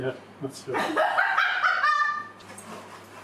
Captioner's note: laughing